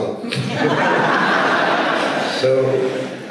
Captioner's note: audience laughs